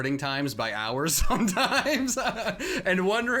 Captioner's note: laughs